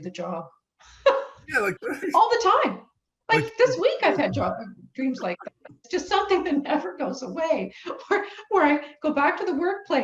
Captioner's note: laughs